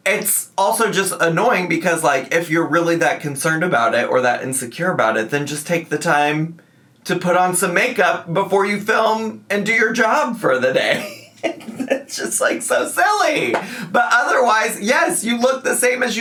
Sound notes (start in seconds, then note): 10.9 laughs